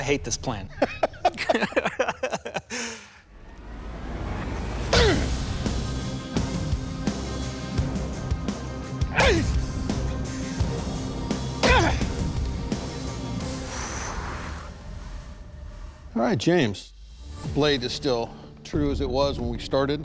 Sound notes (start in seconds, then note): 0.7 laughter; 13.5 exhales